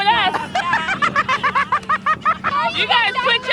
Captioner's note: laughter